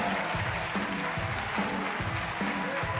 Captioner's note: cheers and applause